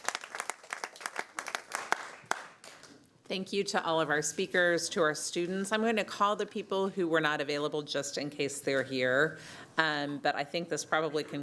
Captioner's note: applause